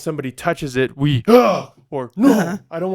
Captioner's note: grunts